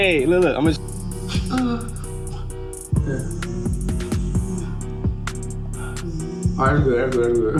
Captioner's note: mouthing buzzing sound